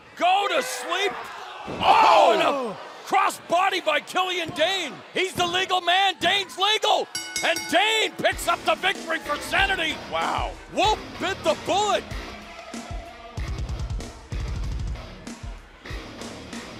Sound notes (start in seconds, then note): 7.1 bell ringing